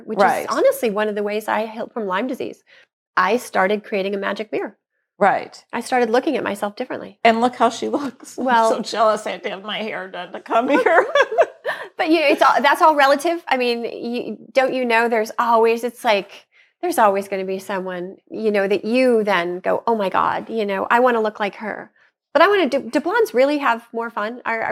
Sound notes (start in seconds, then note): 10.5 laughs